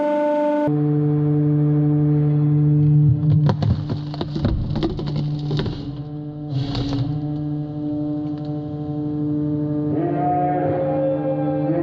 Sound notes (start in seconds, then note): 3.6 glass crackling